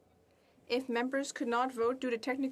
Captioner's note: speaking French